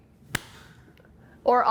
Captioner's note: clap